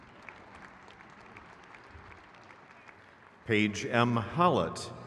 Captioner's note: crowd cheers